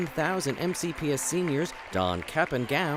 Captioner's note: cheers and applause